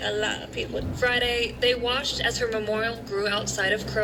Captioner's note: on TV